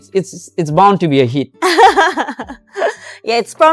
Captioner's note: laughs